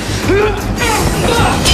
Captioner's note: screaming